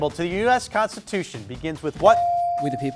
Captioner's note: buzzer dings